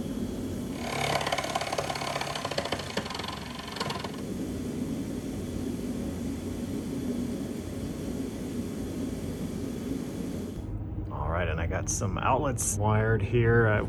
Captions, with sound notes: [sawing] All right, and i got some outlets wired here;